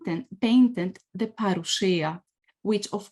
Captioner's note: speaks foreign language